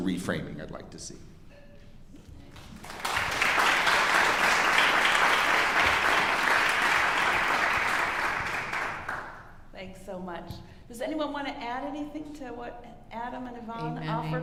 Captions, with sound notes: that's the reframing I'd like to see. (audience applauding) - Thanks so much. Does anyone wanna add anything to what Adam and Ivonne